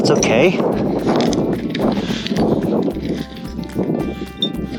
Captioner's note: wind blowing